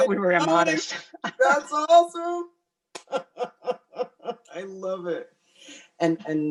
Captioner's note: laughing